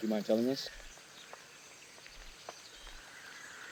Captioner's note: birds Chirping Continues